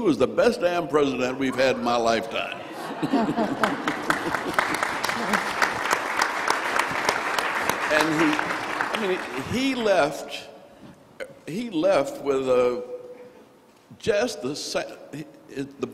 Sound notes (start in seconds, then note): 2.6 crowd laughing and applauding